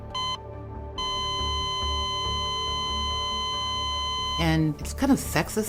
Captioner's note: flat line continuous beeping